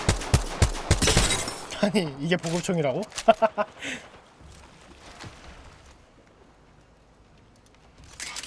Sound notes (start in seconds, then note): 3.2 laughs